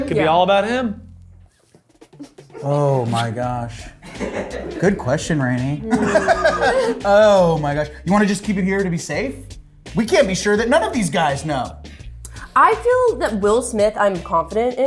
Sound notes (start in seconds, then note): 4.2 crew laughs; 5.7 laughs